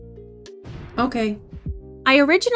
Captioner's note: explosion sound